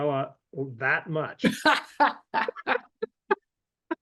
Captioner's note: laughter